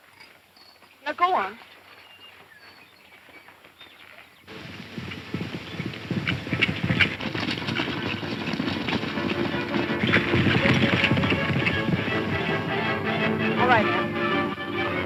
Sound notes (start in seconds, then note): 4.7 horses galloping; 4.7 lively music